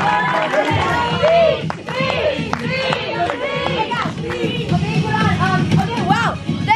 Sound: all chanting

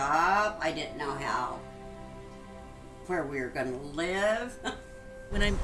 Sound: scoffs

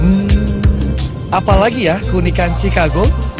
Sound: non-english speech

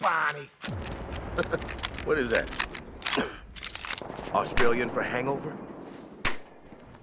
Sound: laughing

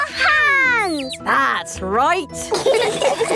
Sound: all laughing

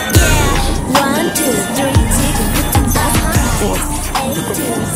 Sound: wind sound😱

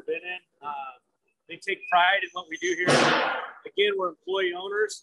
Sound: metal clanging

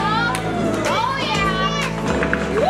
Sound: cheering

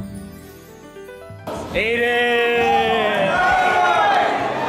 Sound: audiance Reacts

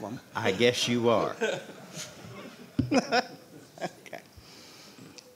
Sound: laughing

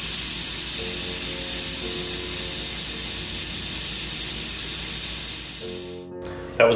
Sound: sound of smooth air flowing out of the airbrush

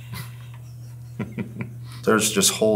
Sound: laughing

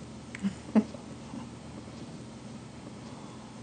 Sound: chuckles

